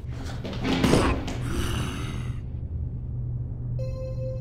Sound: body clatters; zombie groans

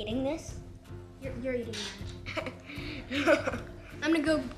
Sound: giggling

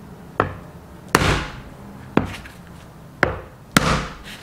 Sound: knife whacking

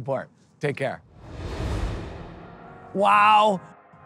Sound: transition whooshing; upbeat music

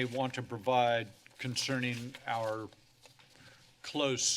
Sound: none

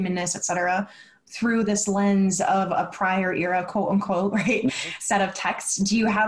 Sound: laughs

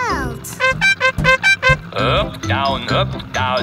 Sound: horn beeping

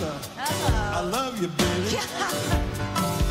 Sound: laughs

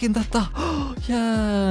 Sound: gasp

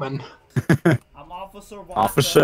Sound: laughing

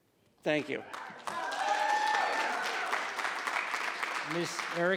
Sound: audience cheering

